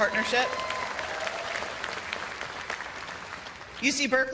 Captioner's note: cheers and applause